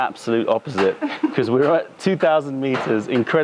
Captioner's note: laughter